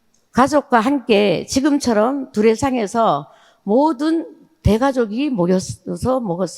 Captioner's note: speaking in foreign language